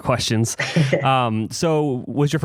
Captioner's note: laughs